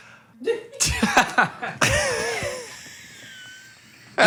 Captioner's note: all laughing